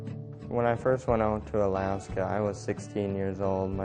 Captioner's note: voiceover